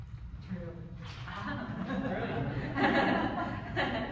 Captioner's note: group laughs